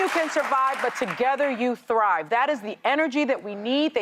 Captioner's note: applause